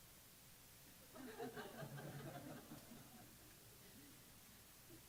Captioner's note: laughter